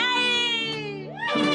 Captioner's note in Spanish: Aplausos